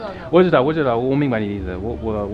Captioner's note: mandarin